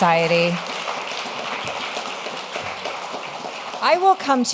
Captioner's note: audience applauding